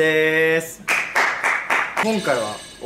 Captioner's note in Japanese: パンパンパンパン！：めちゃくちゃいい音の拍手